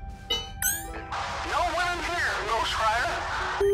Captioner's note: voice on radio